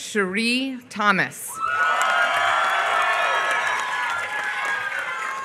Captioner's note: applause